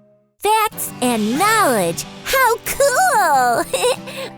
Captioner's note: laughs